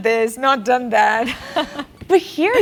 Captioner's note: laugh